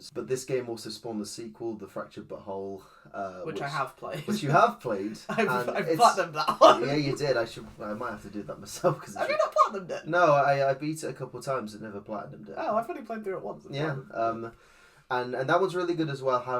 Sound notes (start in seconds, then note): 6.4 laughs